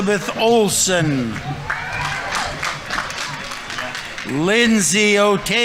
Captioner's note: audience members cheering; audience applauding